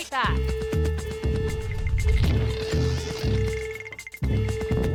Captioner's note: alarm blaring